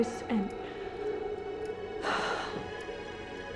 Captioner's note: exhales deeply